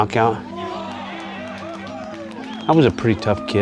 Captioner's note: cheering